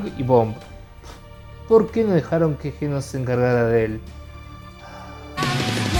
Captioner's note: sigh